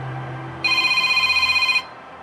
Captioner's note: telephone ringing